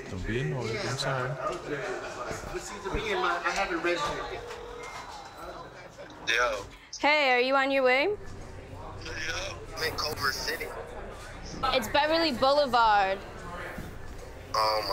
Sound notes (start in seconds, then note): 4.2 phone ringing